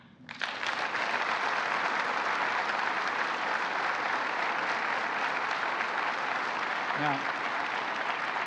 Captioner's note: applause